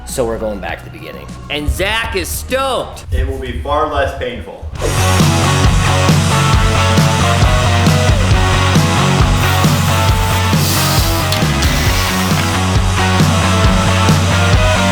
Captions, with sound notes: So we're going back to the beginning, and Zack is stoked! - It will be far less painful. (fast rock music) (saw whirring)